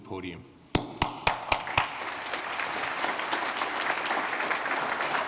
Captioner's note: applause